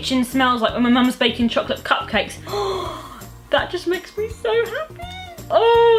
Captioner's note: gasps